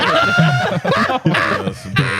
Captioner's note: laughing